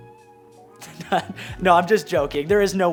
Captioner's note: laughs